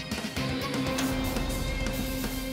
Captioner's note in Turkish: Kapı Açılıyor